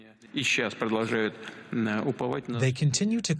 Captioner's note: through translator